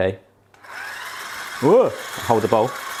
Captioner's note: motor running